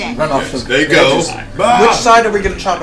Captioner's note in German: schreit